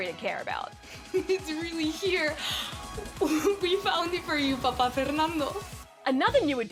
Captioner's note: laughs